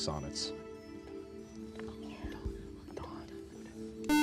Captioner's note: whispering; beep